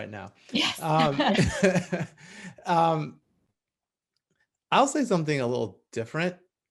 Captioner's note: laugh